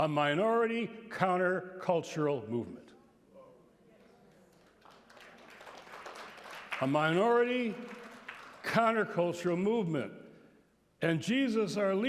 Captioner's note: applause